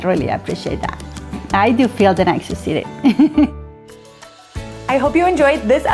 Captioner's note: chuckles